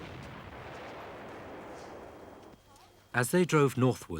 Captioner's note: explosions booming